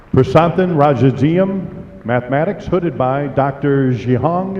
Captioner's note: applause